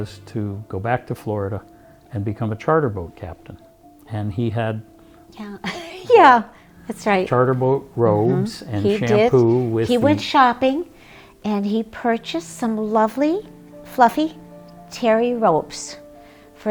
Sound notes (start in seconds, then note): 5.6 laughs